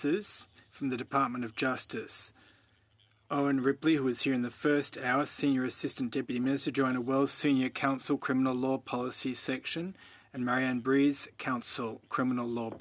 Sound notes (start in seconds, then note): 2.8 speaking French